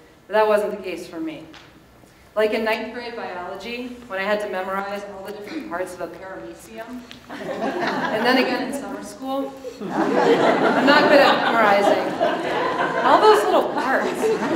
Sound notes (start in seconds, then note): 7.2 audience laughs